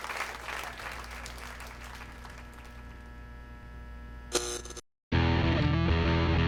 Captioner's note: electricity buzzes; energetic music